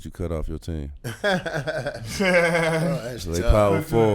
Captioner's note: laughing